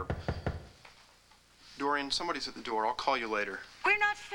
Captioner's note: knock on door